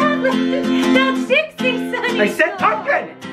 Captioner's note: laughing